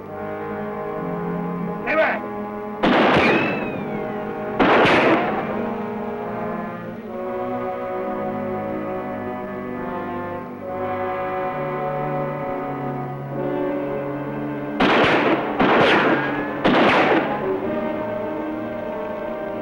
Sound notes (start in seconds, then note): 2.8 gunshots